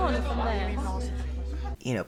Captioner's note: many voices arguing